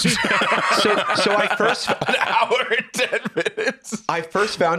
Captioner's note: laughing